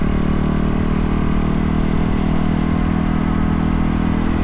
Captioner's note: engine revving